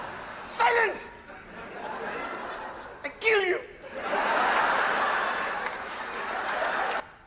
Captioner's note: audience laughing